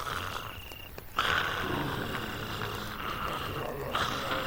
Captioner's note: zombies growling